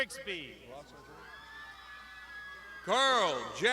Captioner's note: crowd shouting